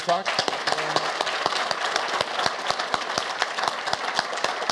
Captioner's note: audience applauds